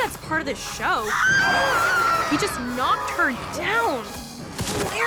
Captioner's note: Ringmistress screams